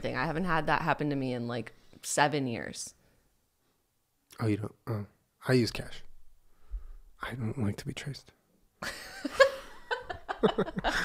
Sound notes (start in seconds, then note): 4.0 stuttering; 8.8 laughter